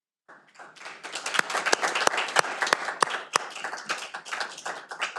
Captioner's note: audience applauding